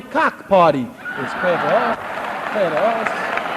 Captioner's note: cheering